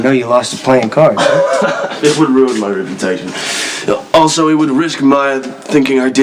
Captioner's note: laughs